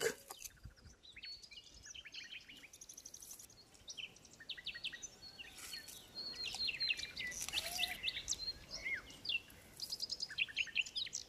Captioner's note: bird sounds